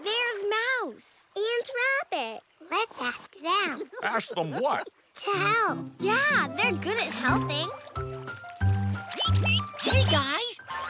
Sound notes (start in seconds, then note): 8.8 gibble goose girls tweeting